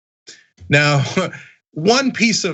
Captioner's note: laugh